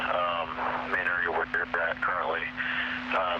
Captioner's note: static